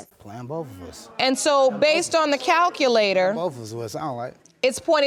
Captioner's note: scoffs